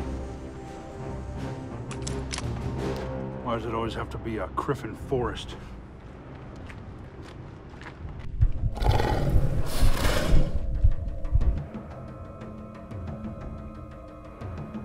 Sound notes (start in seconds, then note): 8.6 low growls